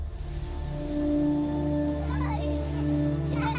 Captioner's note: children playing